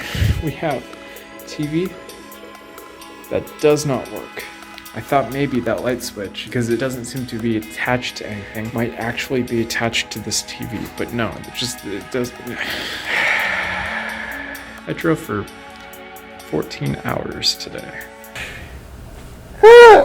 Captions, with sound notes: we have tv? that does not work I thought maybe that light switch? because it doesn't seem to be attached to anything might actually be attached to this tv but no it just it does [ LONG DRAWN OUT SIGH ] I drove for 14 hours today